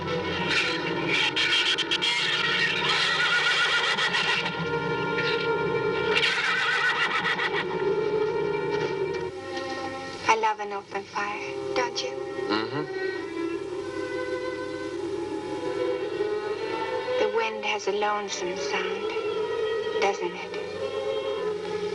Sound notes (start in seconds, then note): 0.3 shrews chattering; 2.9 horse neighing